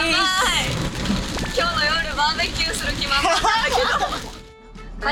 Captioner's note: laughs